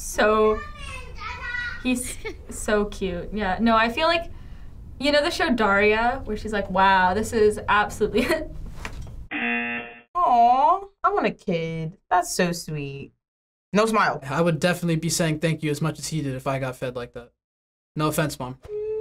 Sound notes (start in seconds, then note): 8.9 laughs; 9.3 buzzer rings